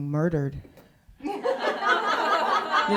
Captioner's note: laughter